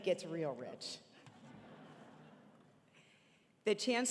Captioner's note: audience laughing